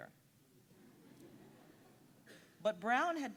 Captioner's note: audience giggling